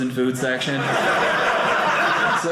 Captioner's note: audience laughing